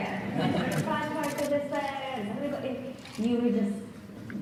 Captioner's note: audience laughs